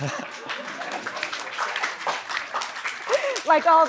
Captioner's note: applause